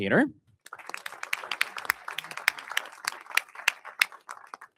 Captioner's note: audience applauding